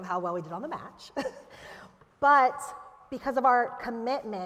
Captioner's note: laughter